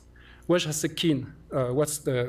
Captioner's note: non-english